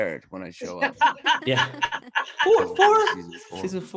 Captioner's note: laughs